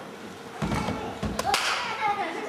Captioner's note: stomps and claps